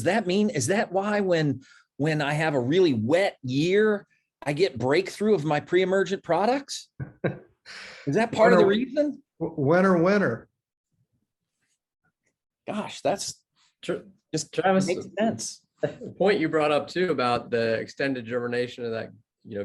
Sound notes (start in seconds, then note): 7.0 laugh